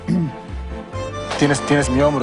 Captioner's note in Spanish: Carraspea